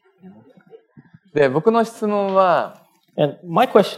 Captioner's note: speaking japanese